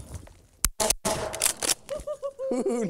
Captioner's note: gun shots